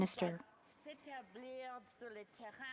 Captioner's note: speaking French